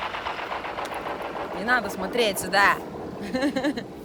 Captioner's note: laughs